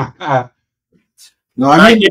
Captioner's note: laughing